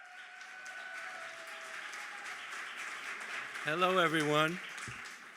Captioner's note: applause